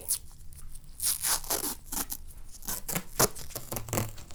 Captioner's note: loud unsticking